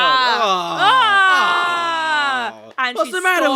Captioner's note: shouting; groaning